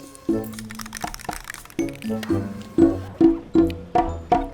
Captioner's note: spray cans rattle